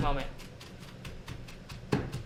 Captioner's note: grinding herbs